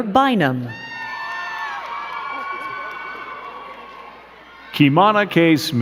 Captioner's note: crowd cheering and clapping